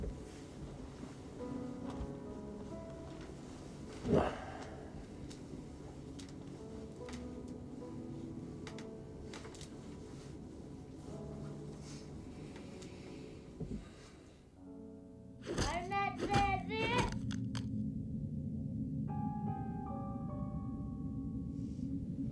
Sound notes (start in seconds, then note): 0.1 somber music continues; 8.8 somber music continues; 15.5 wooden sword thudding; 18.5 soft suspenseful music